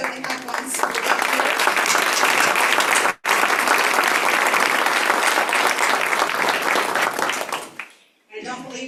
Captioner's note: applause